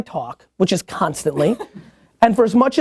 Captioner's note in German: lacht